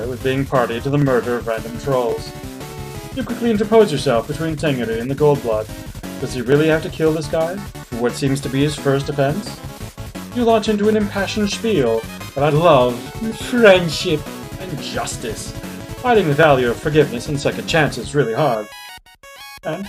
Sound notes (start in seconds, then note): none